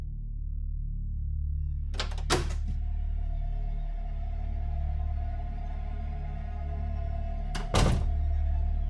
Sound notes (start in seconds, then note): 1.9 door clicks; 5.1 slow music continues